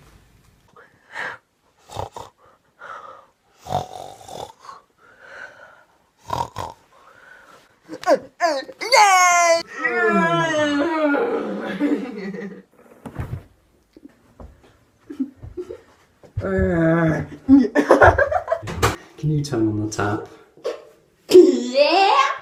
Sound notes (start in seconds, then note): 0.3 snoring; 9.6 grunting; 20.3 gasp